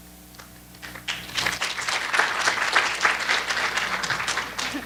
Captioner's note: applause